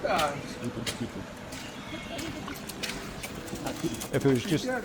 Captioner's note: birds singing